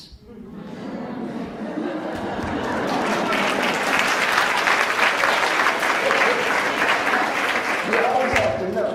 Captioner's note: laughs; applauds; laughs